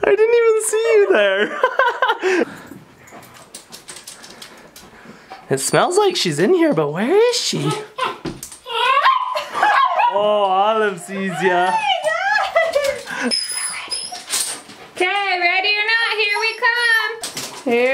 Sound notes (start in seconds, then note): 0.9 laughing; 9.0 dog's barking